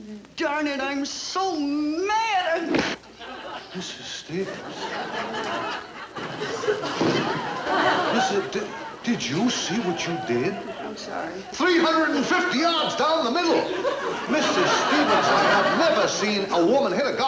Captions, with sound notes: Darn it, I'm so mad. (club thuds) - Mrs. Stevens. (audience laughing) Missus, did, did you see what you did? - I'm sorry. - 350 yards down the middle. Mrs. Stevens, I have never seen a woman hit a golf ball